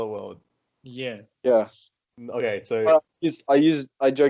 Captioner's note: agrees in high-level weab